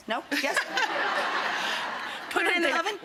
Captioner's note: audience laughs